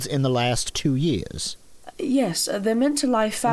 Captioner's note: accented